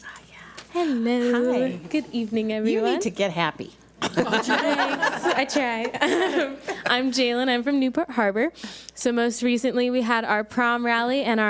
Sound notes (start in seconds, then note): 4.0 board laughs